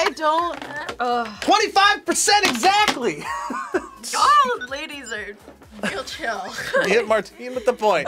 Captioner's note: laughs